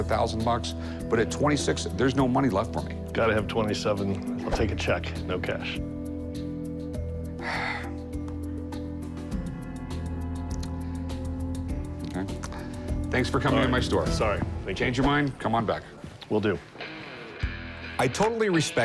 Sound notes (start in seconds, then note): 7.4 sigh